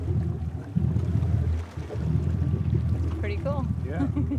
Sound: chuckling

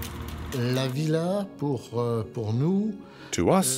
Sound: speaking French

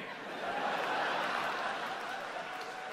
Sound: laughter

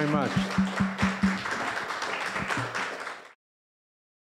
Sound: clapping

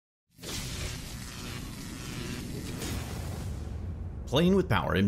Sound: electrical static

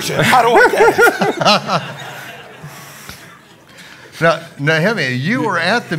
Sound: audience laughing

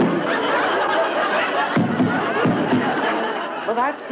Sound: floor banging; audience laughs

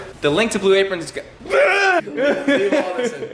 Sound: frustrated shriek

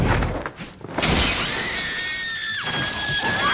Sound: screams

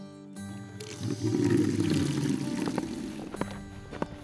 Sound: water running

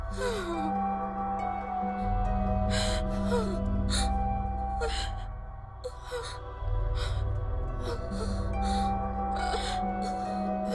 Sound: sobbing

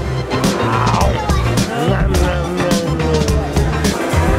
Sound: growls

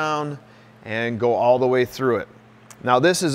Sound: none

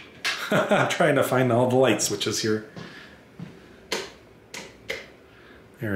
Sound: laughs

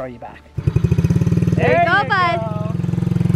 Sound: engine roars

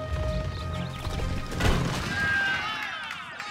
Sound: crumbling; cheers and applause

